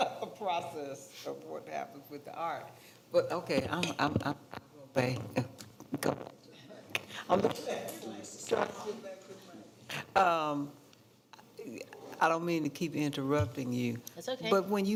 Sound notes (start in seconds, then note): 5.4 microphone garbles speech